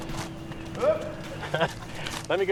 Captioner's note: laughing